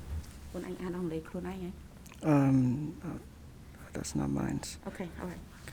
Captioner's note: speaking in a foreign language